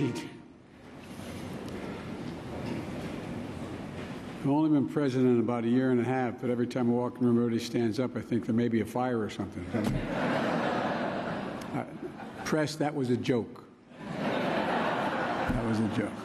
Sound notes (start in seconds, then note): 10.2 laughter